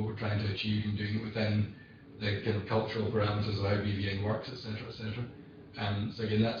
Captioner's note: audio distorts